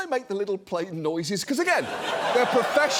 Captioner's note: studio audience laughs